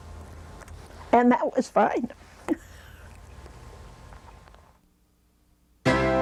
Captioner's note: laughing; upbeat synthesizer music